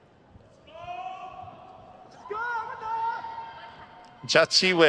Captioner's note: crowd cheers